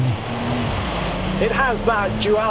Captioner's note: engine revs